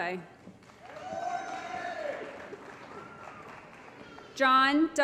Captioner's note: applause & Cheering